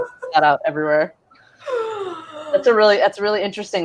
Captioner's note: laughing